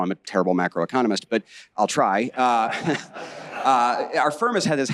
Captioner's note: audience laughing